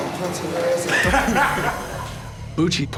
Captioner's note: laughter